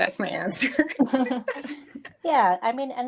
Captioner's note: laughing